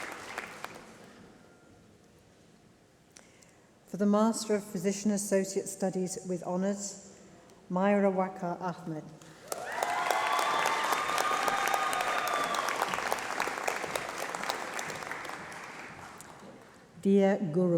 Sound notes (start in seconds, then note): 0.0 applause; 9.2 applause